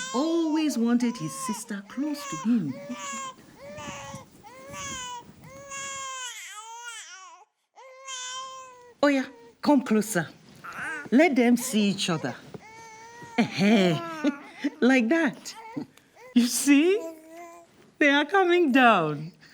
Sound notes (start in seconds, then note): 1.9 cries